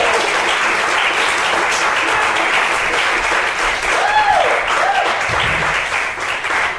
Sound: applause

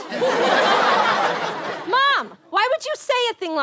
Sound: audience laughter

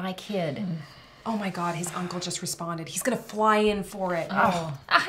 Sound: sigh

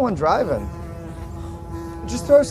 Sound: buzzing loudly

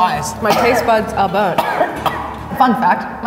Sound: coughing

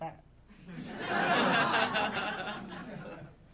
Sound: audience laughing

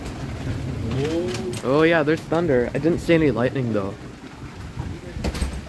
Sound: distant thunder rumbles

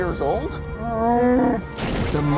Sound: roars

